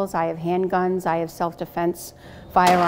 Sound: gun blasting

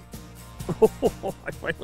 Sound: chuckling excitedly

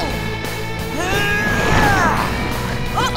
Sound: grunting

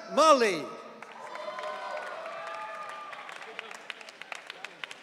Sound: audience cheering

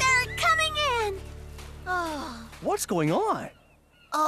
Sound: sighs

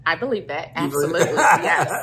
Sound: laughs

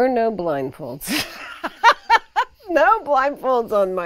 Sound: laughs

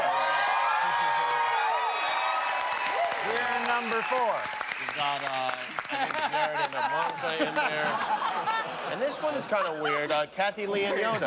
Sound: cheers and applause

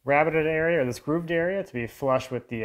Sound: none

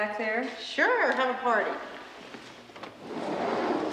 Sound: door scraping

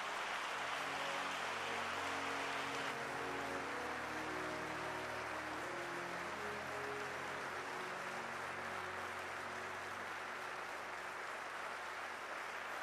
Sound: applause

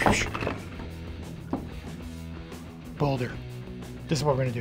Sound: grunting

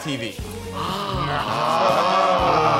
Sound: guys gasping

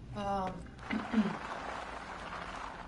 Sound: clears throat

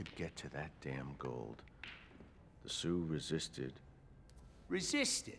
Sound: billiard cue strikes

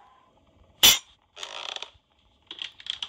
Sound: rattle and click; clank; ground creaks

